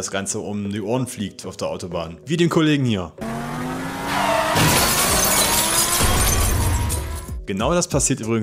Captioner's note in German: Unfallgeräusche